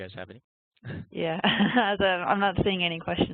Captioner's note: laughs